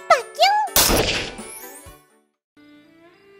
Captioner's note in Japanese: 銃撃でディスプレイが割れる音